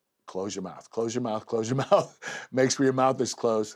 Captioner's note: laugh